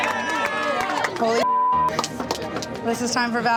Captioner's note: crowd cheers; beep